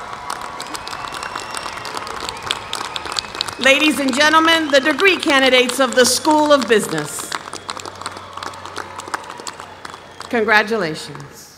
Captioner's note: applause